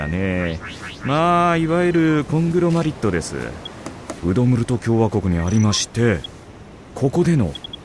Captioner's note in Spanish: sonidos del dispositivo; sonidos del dispositivo; sonidos del dispositivo